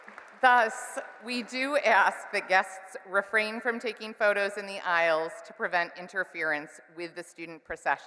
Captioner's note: applause